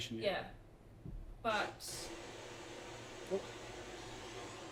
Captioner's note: device hissing